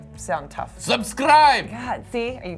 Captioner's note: with russian accent